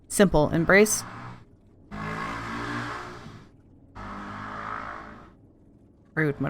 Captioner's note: loud motorcycle noises